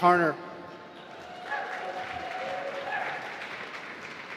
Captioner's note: applause